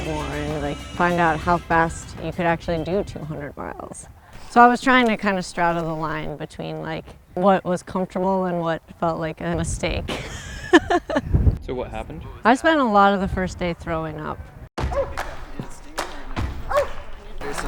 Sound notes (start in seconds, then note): 10.1 laughs; 14.8 upbeat music